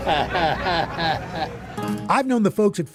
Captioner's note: chuckles